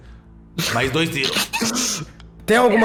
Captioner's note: laughs